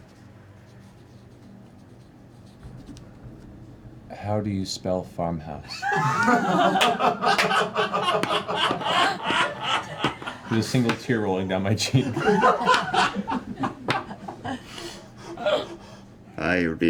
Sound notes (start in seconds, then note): 5.7 laughter